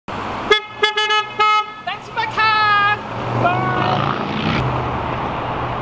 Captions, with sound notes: (car horn beeps) - Thanks for my car, bye.